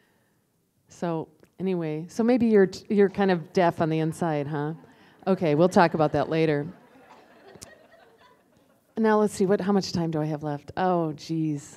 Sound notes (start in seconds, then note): 5.5 laughter